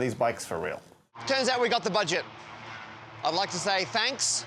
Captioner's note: engines roaring